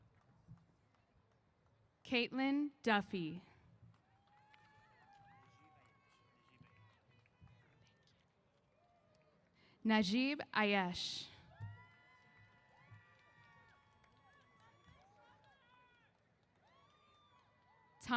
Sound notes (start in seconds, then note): 3.9 applause & Cheers; 11.4 cheers